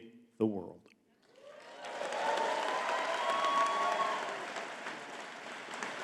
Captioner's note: audience cheering and clapping